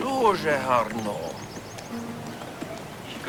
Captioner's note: speaking in foreign language